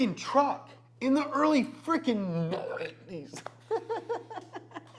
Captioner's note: belching; chuckling